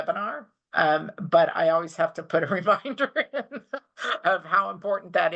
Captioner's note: chuckles